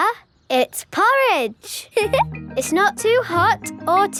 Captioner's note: giggles